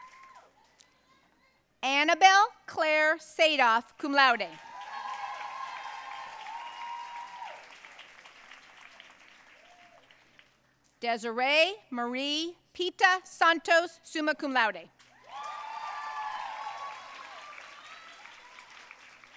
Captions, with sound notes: Annabelle Claire Sadoff, cum laude. (audience cheering and applauding) Desiree Marie Pita Santos, summa cum laude. (audience cheering and applauding)